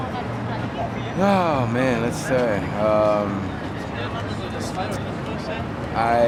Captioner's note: sighs